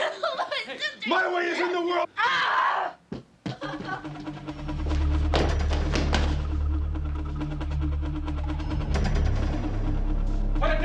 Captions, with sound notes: You monster! - My way is in the world! (Allison grunts) (dramatic music)